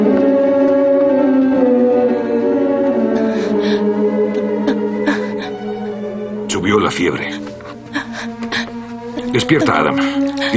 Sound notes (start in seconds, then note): 5.0 panting